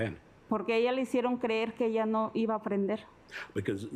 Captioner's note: speaking Spanish